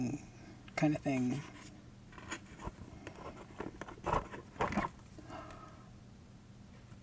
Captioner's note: opening box